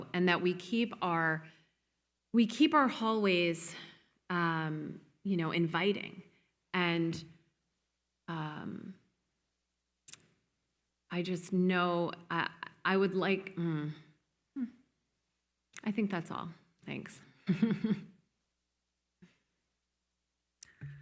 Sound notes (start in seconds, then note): 17.4 moderator chuckles